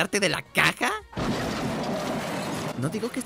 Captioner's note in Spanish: Sonidos de accidentes de autos